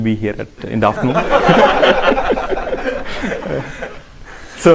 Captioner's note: laughter